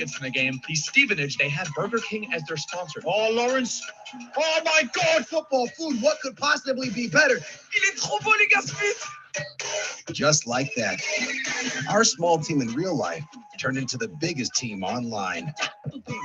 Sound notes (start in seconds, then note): 8.0 influencer speaking French